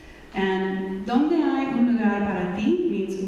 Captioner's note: speaking in foreign language